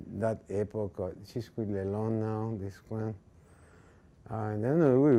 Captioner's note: speaking in foreign language